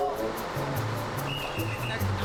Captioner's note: whistle toots